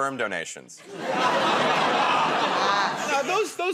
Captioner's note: laughter